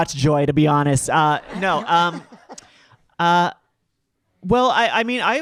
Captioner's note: audience laughing